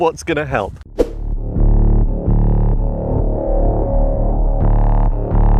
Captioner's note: futuristic sounds